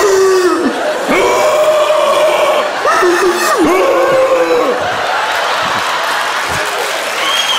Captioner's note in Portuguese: grunhido; grunhidos